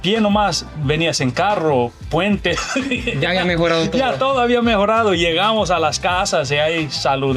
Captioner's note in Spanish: risas